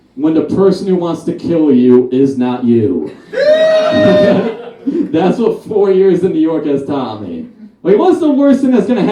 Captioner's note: audience Laughs